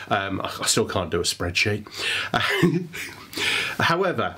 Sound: chuckles

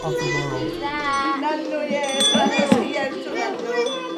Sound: toddlers chatter

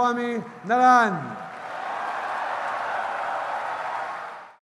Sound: wild cheers & applause

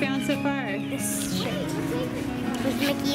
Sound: voiceover

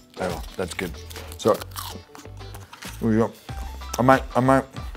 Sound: crunching

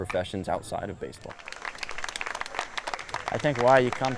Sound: audience applauds

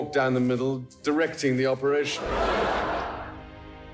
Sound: audience laughing; gentle symphony music

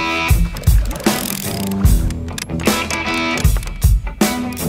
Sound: ratchet clicking

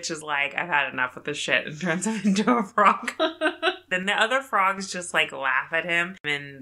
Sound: laughs

